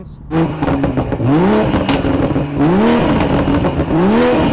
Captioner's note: engine revving